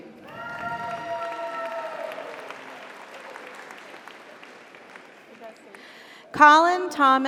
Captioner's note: audience applauds; audience cheers